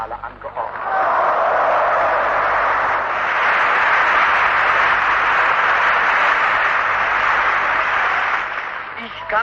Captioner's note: applause